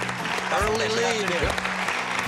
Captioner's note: cheering